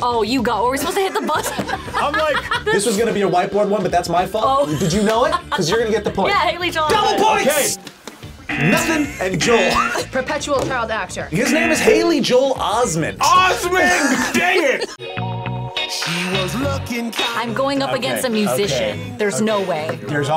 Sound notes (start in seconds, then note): 4.6 laughs; 8.5 buzzer; 8.5 laughs